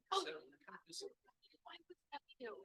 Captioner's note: audio cuts out